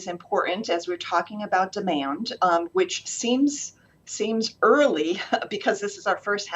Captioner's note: chuckles